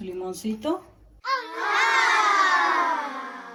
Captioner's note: kids aaahhhhh